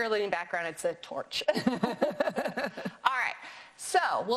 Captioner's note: both laughing